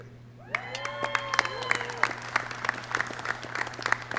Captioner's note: clapping